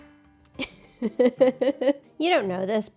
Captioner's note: laughs